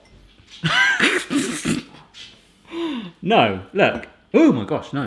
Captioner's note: laughs